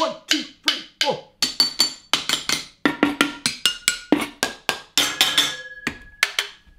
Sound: tapping, banging, and scraping

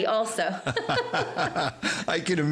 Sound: laughing

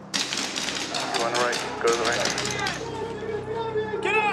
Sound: gunfire

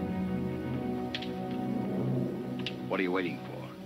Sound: gun clicking

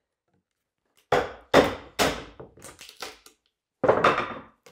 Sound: mallet bangs

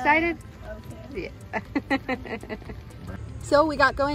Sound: laughs

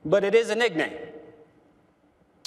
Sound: none

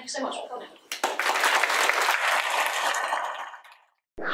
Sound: audience applause

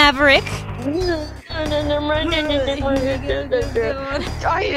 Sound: mocking noises

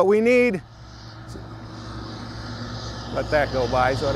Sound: loud vehicle passing

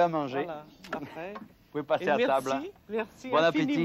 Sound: speaking French

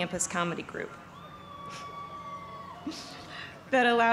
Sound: cheers

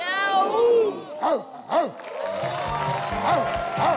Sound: barking; bright, upbeat music; audience cheering and clapping

